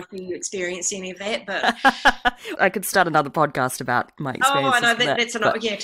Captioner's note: laughs